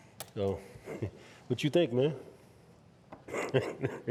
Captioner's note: laughing